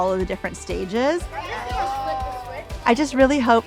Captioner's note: students chattering